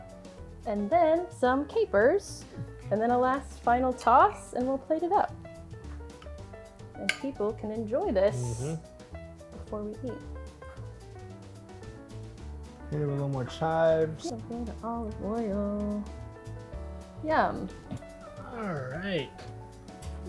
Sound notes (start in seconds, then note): none